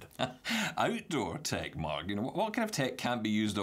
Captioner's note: chuckles